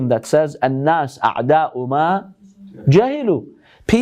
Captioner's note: Arabic